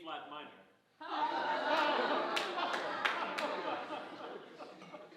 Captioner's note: audience laughing